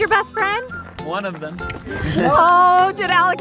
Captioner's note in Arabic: ضحك